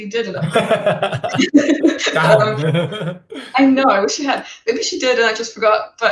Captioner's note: laughing